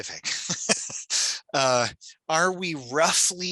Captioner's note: laughs